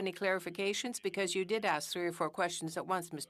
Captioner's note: speaking French